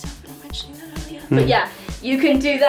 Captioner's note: cameraman giggle